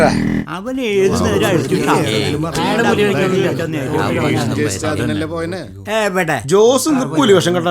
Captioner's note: indistinct chatters